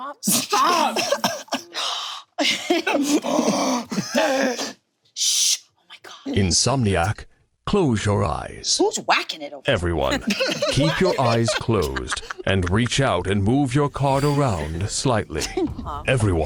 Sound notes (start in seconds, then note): 1.6 gasps